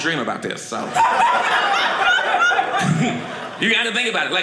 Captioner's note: audience laughing